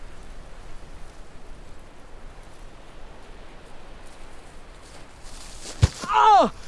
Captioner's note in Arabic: يصرخ الرجل ويشتكي